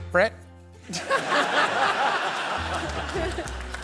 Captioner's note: laughter